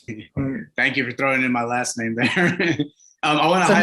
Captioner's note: laughs